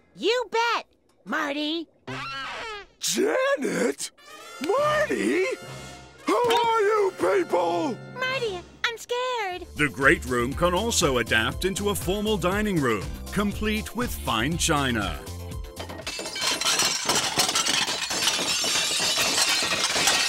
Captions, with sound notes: You bet, Marty. Janet? Marty? Who are you people? Marty, I'm scared. The great room can also adapt into a formal dining room, complete with fine china. [smashing]